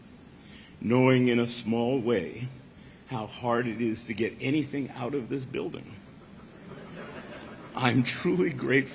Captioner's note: laughter